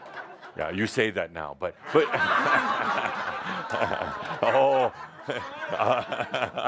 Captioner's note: laughter as mimes drinking it up; more laughter